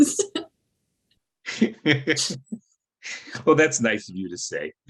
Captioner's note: laughing